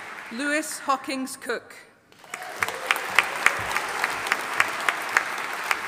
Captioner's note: audience applauding